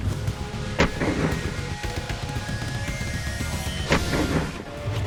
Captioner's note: slow-motion gunshots